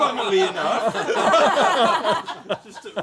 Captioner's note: laughter